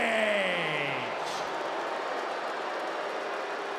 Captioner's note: crowd boos